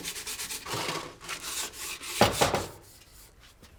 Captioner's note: knocking on door